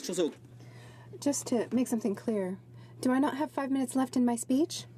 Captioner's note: speaking French